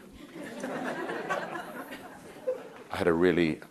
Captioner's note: crowd laughing